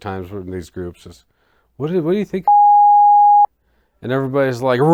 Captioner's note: beep